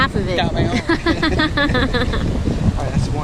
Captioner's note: both laughing